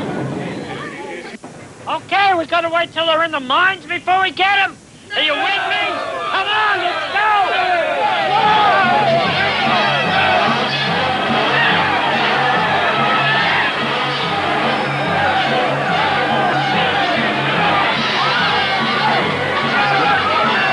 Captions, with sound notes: [indistinct chatter] (shouting) Okay, we gotta wait 'till they're in the mines before we get 'em? --No! Are ya with me? C'mon let's go! [mob shouting] [panicked shouting]